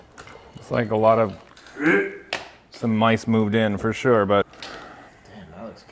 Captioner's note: gags